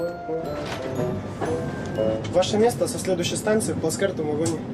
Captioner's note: speaks in Russian